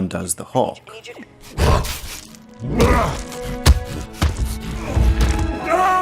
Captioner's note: grunting